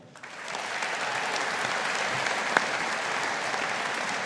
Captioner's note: audience applauding